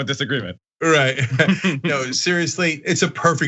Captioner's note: laugh